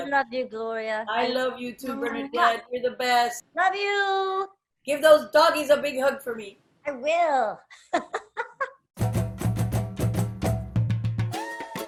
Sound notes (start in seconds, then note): 7.8 laughs; 9.0 upbeat music